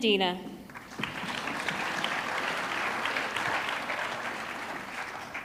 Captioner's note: audience clapping